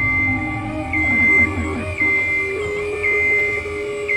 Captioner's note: beeping sound